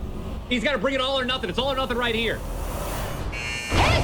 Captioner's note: buzzer